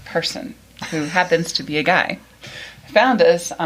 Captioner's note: laughs